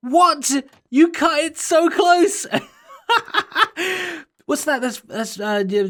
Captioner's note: laughs